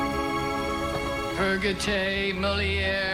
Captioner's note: speaking Latin